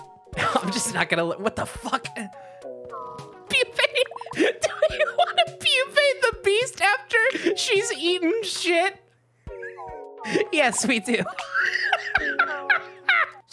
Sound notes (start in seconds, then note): 4.3 laughing; 9.4 wheezing; 11.2 laughing